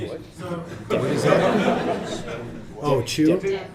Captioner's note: laughter